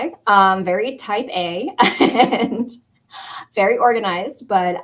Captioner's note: laughter